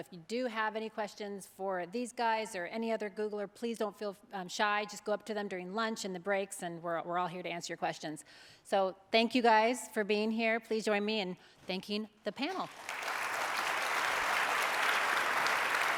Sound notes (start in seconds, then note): 12.6 applause